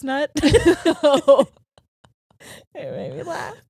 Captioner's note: laughing